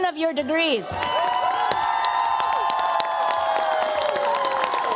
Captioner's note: cheers, applause